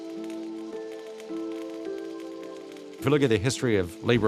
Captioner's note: sparks crackle